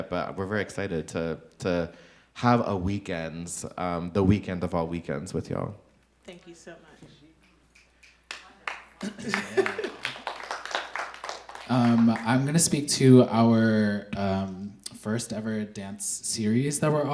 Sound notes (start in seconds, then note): 7.7 audience clapping; 9.0 chuckles; 10.3 audience clapping